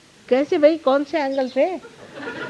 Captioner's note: yogis laugh